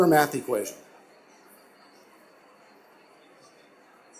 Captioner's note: silence